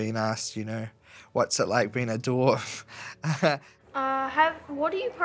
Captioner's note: chuckles